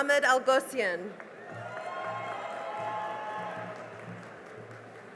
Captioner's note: cheering and applause